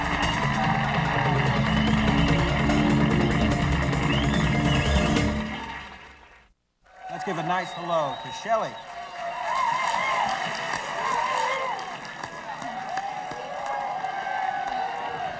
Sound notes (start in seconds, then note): 0.0 dramatic music; 0.0 audience applauding; 9.9 audience applauding